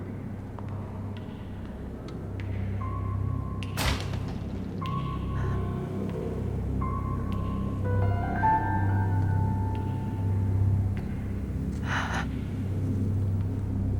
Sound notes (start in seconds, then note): 3.8 door cracks; 6.7 suspenseful music